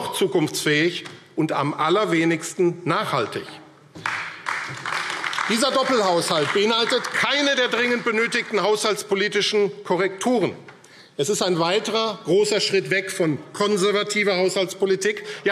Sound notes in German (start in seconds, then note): 3.9 Beifall AfD